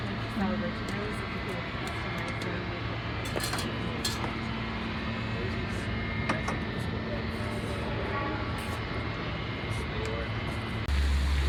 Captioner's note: crowd noise; tea cups clicking together; water flowing in pool